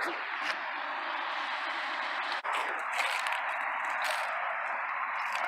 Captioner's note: crunching and scraping noises